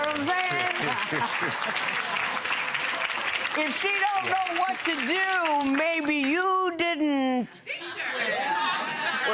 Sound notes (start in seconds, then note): 0.0 audience applauding